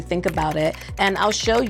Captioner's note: computer keys clicking